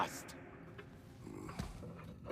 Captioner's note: grunt